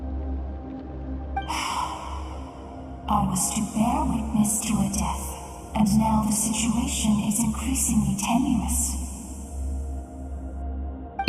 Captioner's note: sigh